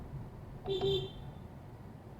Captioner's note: beep beep